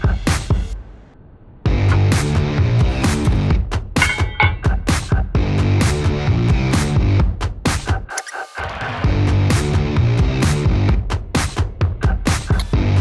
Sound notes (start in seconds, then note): 2.4 metal clanging; 8.1 tool whirring